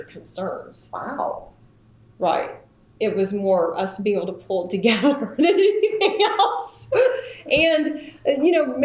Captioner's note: laughter